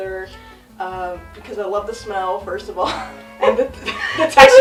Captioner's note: laughs